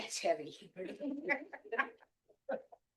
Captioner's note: laughing